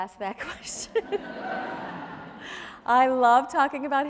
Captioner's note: audience laughs